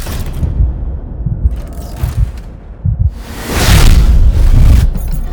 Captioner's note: heartbeat effect